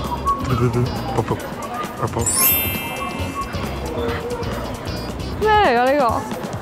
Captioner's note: exciting sound effect 2